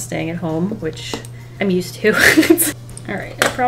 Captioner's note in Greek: Γέλια